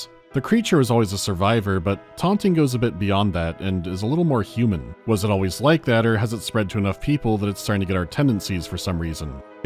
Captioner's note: none